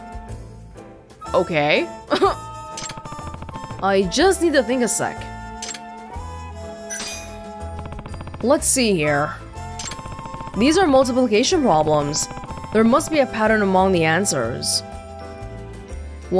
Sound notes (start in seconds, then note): 2.1 chuckles